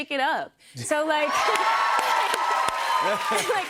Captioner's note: cheers and applause